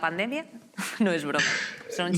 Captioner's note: laughing